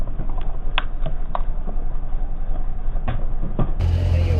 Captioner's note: slowed down buckling